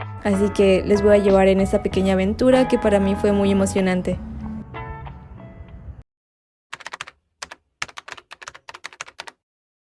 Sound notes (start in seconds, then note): 6.7 typing